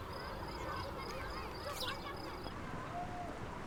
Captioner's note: children shouting